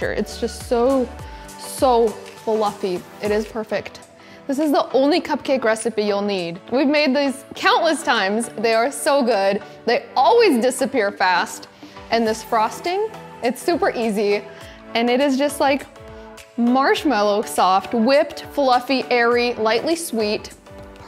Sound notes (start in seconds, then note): none